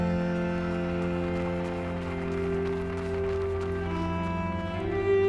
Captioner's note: snow crunching softly